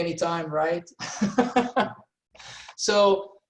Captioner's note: laughing